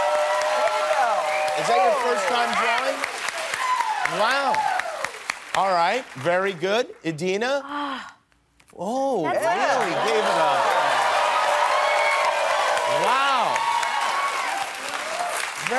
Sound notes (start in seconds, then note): 6.1 cheers and applause